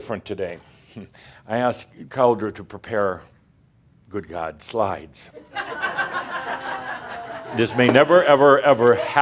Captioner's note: laughter